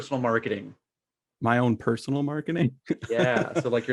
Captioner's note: laughs